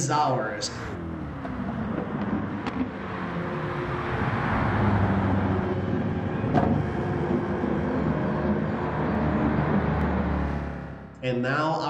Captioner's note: engines revving, cars noises